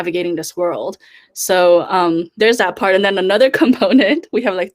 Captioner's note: laughs